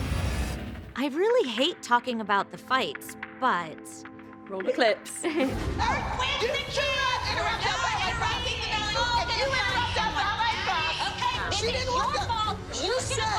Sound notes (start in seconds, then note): 5.2 chuckles; 6.0 indistinct shouting